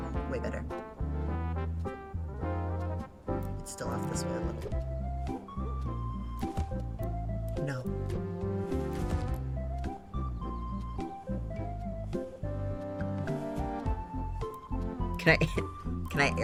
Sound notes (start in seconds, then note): none